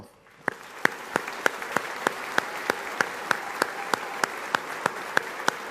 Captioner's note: audience applauding